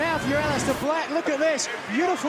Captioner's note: crowd cheering